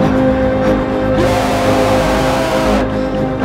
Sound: screams

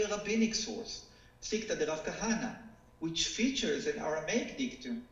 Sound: speaking foreign language

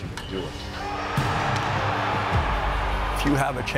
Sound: crowd cheering

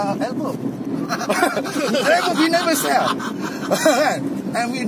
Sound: ketawa kuat!

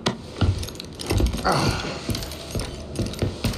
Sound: grunts

